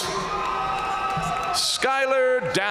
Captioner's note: audience cheering and applauding